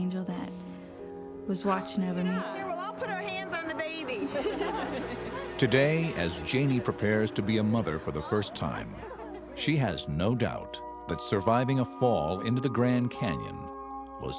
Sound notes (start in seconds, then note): 3.0 all laugh